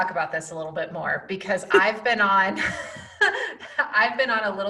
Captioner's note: laughs